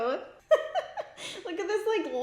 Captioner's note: laughs